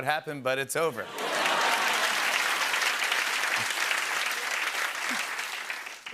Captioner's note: laughter and applause